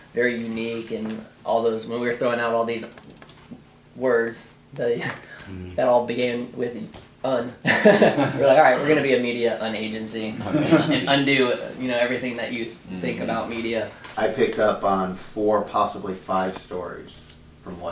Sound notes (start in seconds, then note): 7.6 laughing